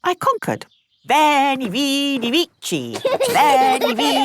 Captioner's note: laughing